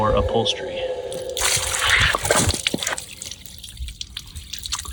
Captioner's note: water splatting